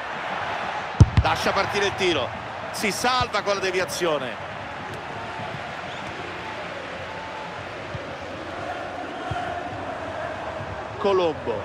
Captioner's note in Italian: Applauso